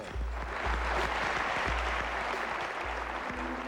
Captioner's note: applause